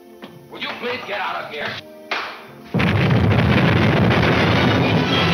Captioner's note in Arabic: انفجارات متفجرة